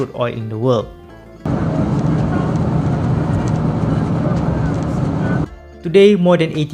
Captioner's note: vroom vroom